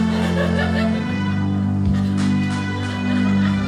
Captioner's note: audience laughing